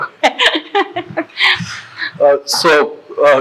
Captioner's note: laughing